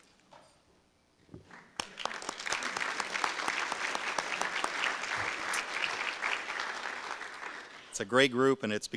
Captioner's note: audience applause